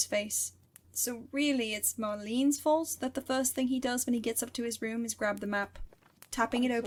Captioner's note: map rustles